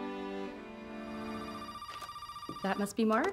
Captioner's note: phone ringing